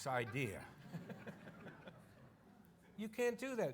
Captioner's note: audience laughing